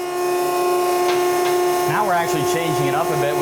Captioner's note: machine whirring